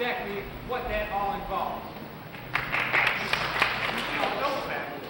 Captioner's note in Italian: applausi